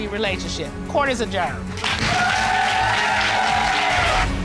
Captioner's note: applause